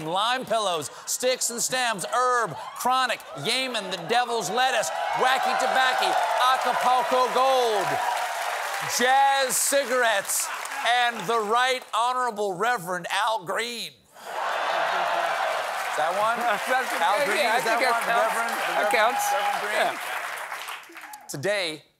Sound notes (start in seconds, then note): 14.2 cheers and applause